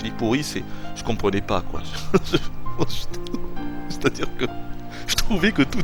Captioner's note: laughs